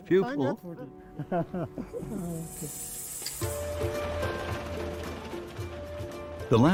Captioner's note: both laughing; upbeat music